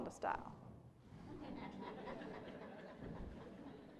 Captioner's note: laughter